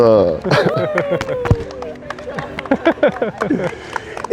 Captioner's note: all cheering